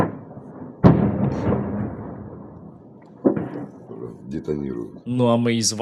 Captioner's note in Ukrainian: вибухи